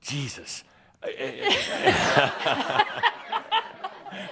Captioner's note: laughter; laughing and wiping her tears